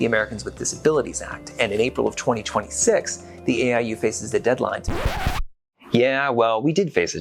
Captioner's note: record scratch